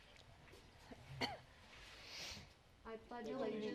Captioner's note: coughs